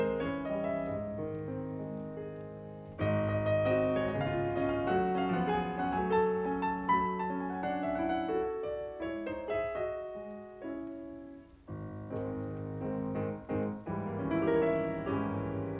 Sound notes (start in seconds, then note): none